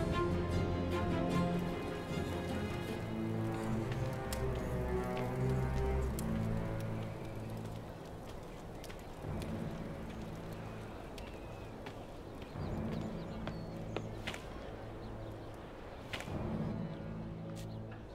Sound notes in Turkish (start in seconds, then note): 5.0 Ateş çıtırtısı sesleri; 11.7 Kuş cıvıltısı sesleri